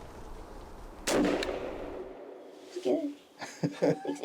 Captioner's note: whispers; gun fires; laughs